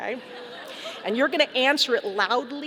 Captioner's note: audience laughing